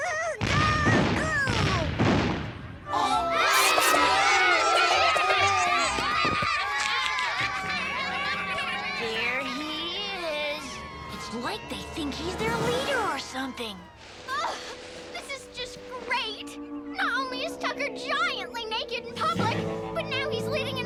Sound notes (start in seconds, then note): 5.3 children shout